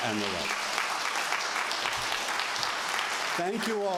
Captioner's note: applause